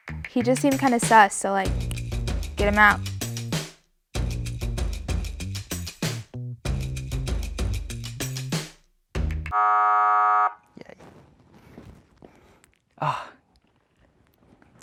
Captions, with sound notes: - He just seemed kinda sus, so like, get him out. (buzzer rings) - Yay.